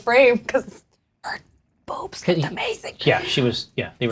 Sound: whispers

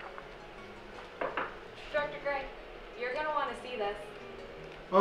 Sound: knocking

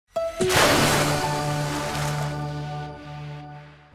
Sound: splash

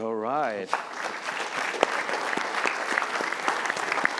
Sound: applause

